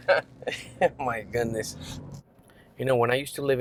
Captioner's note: laughter